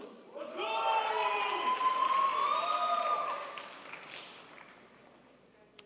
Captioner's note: crowd applauds